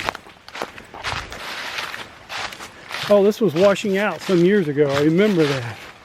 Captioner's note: wind